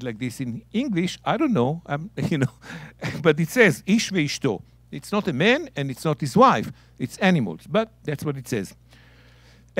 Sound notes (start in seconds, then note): 3.5 speaking in Hebrew